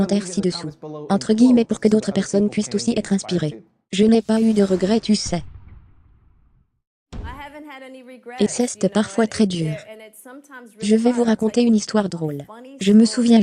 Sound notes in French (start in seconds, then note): 4.2 whooshing; 4.3 musique dramatique